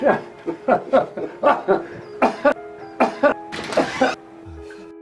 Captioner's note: laughing and coughing; soft music